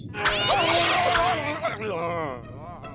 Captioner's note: buzzing and screaming; moaning